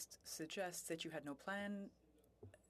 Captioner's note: speaking French